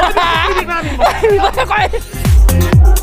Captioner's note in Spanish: risas